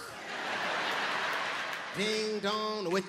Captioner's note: crowd laughing